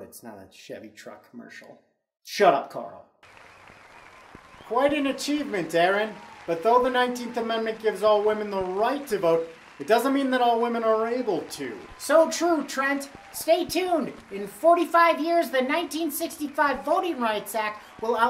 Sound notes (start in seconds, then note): 4.3 crowd cheering